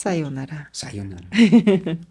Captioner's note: laughs